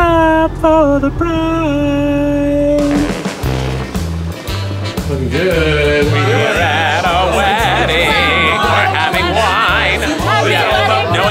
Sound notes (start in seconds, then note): 3.1 jazzy music; 3.1 machine whirring